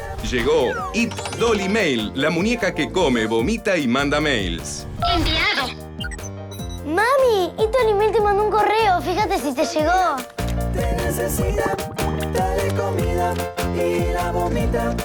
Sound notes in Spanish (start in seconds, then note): 5.9 Pitido; 10.9 Música: jingle